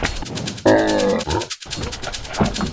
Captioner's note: animal vocalizations